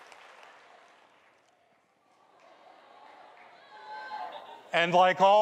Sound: audience applauds

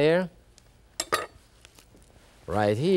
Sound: knife clatters

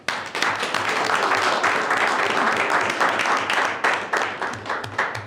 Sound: board members clapping

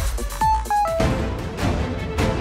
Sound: phone ringing

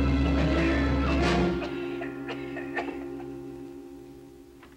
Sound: coughing

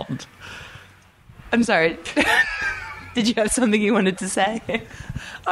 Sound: laughing

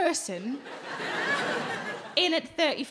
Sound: crowd laugh

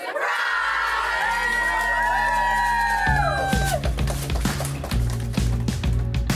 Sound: cheering and clapping

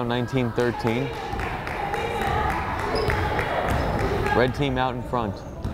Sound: fan applauding and cheering

